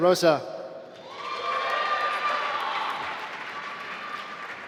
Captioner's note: applause